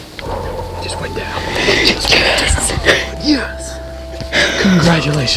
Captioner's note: sound of celebration